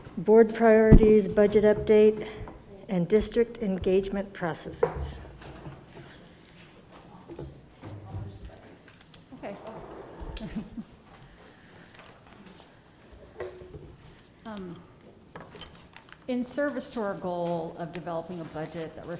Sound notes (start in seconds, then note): 10.2 laughs